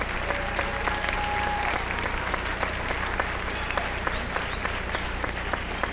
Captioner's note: applause